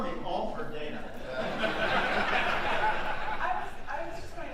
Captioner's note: audience laughing